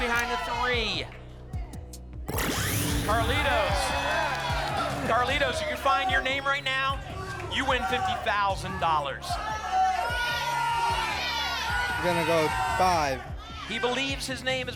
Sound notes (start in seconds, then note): 3.0 applause and cheering; 9.1 audience shouting numbers